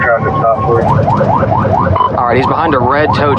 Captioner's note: wararningng s sirene